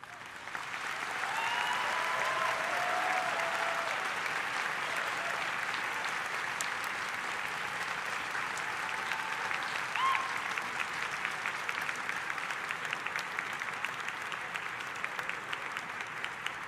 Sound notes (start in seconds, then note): 0.2 audience applauding; 0.7 audience cheering; 1.6 audience applauding; 13.2 audience applauding